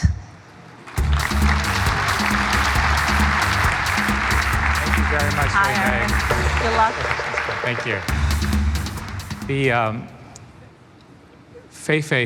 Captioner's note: applause